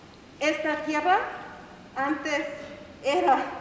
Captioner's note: spanish